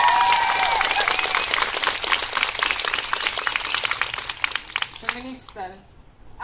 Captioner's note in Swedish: Jubel och applåder